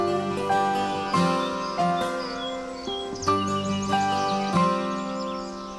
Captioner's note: birds singing